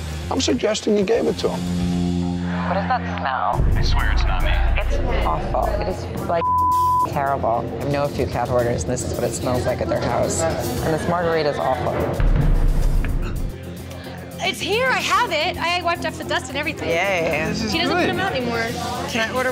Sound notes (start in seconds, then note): 6.4 beep